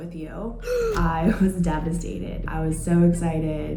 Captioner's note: gasping